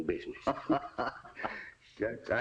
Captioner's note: laughter